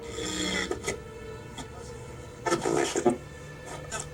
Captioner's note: ominous music; radio crackles